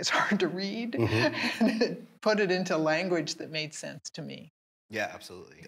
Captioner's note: laughing